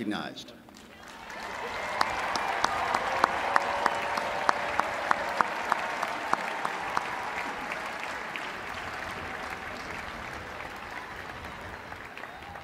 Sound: applause

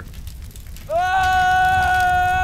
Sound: yelling

